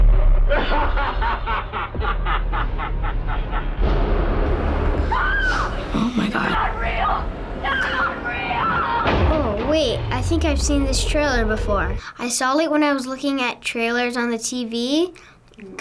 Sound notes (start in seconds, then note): 0.6 Pennywise laughing; 5.0 screaming